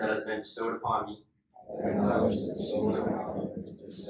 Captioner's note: inductees repeat